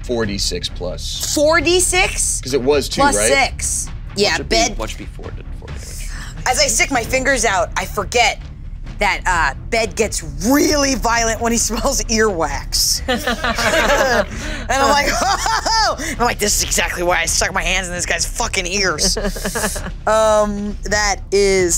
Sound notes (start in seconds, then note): 13.0 everyone laughing; 19.0 laughing